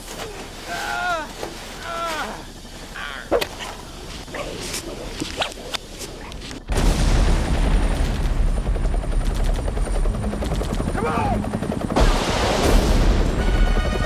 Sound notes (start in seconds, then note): 1.7 yells; 7.2 helicopter whirs; 11.9 booming